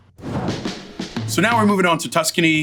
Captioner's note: dramatic whooshing